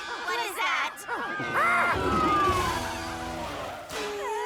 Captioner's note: clyde gibbers, sirens wail; worried whimpers